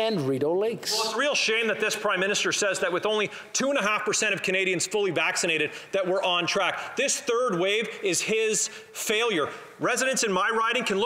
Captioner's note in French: voix de l'interprète